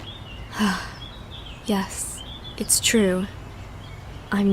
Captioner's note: sigh